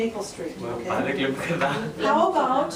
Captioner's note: student speaking in Spanish